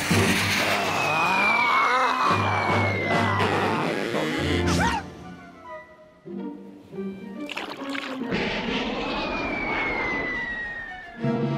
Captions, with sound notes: AAH! AARRRGH! (rope creaks) WHOO! (whistling through air)